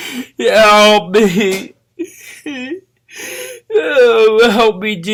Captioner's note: llora